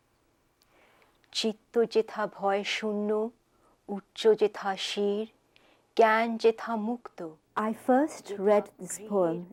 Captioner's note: speaking Bengali